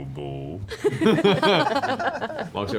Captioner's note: laughter